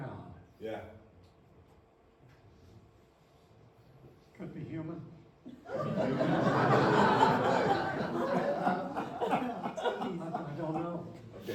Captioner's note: laughter